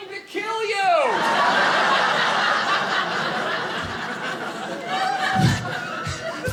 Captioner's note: audience laughing